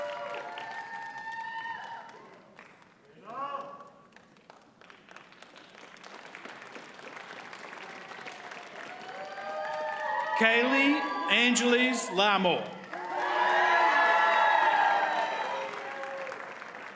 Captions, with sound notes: (audience applauds) Cailey Angeles Larmore. (audience cheers and applauds)